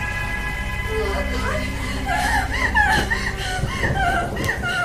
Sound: whimpers

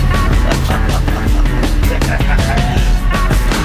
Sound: laughing

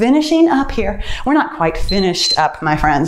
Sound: timer beeps

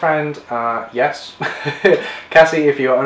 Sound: laughs

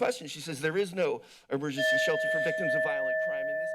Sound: bell chimes

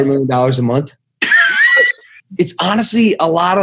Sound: laughs

